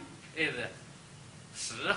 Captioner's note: speaks Chinese